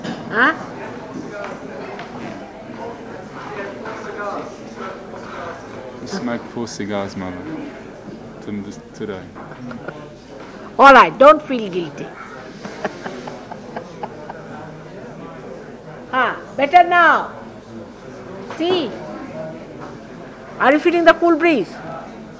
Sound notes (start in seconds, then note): 9.4 shri mataji laughs